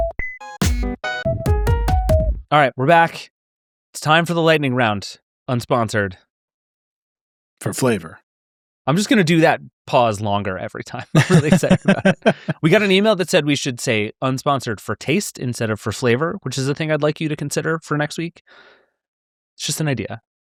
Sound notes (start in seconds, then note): 0.0 quirky music; 11.1 laughing